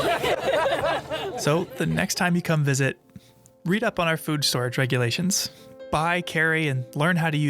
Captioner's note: laughs